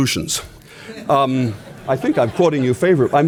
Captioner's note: laughter